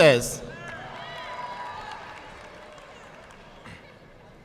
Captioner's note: audience clapping